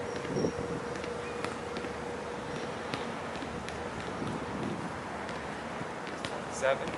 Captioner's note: basket ball tapping; wind howling